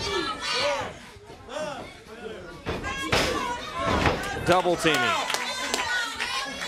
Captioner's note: crowd cheering